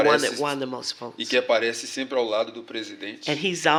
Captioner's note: speaking portuguese; speaking portuguese